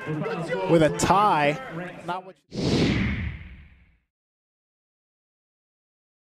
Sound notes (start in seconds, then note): 2.5 whoosh